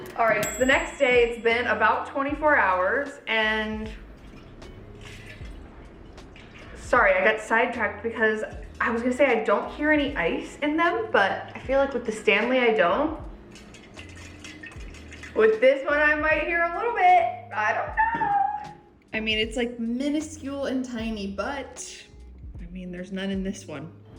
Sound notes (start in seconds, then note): 3.8 water sloshing; 13.5 ice rattling